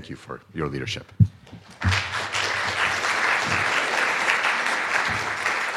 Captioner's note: applause